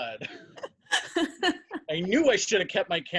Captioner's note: women laugh